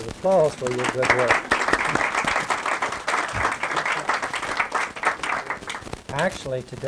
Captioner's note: applause